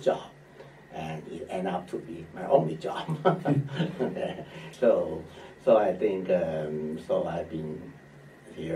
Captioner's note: laughs